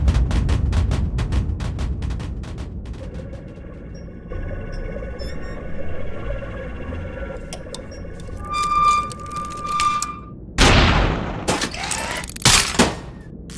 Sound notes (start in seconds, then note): 5.1 panel squeaking; 7.5 creaking; 8.6 creaking, peeling, squeaking; 10.6 mechanisms clicking, whirring; 10.6 slam!